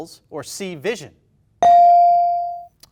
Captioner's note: bell dings